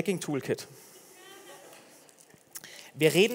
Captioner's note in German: Gelächter